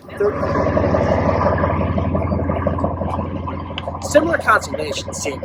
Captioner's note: woosh sound